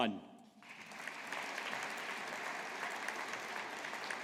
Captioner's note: audience applauding